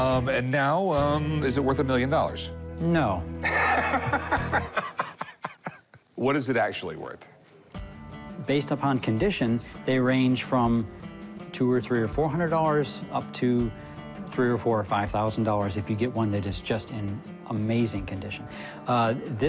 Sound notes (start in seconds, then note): 3.4 laughing